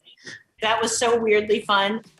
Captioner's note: normal voice